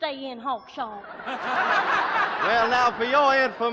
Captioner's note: laughter